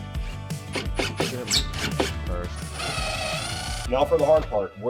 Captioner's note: tool whirring